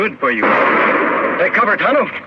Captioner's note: gun firing